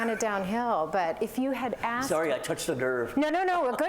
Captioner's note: laughter